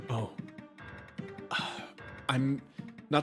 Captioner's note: sigh